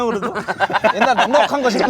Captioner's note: laughing